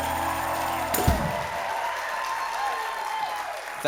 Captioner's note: applause